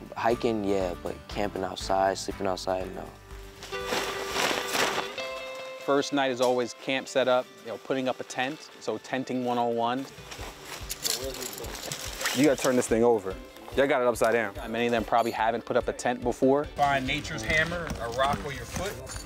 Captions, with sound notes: Hiking, yeah. But camping outside, sleeping outside, no. (tarp crinkling) - First night is always camp set up, you know putting up a tent, so Tenting 101. You gotta turn this thing over. Y'all got it upside down. Many of them probably haven't put up a tent before. Find nature's hammer, a rock with your foot.